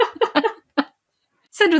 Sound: laughing

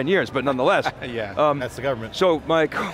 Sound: laughs

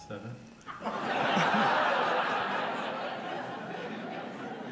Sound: audience laughs

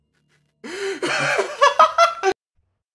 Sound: obnoxious laughter

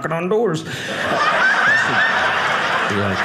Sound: audience laughing

